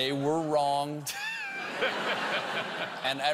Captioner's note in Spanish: risas